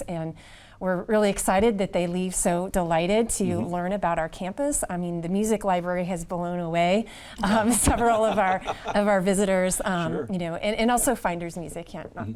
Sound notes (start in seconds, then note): 7.5 laughs